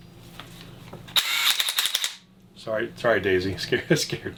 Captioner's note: whirring of impact driver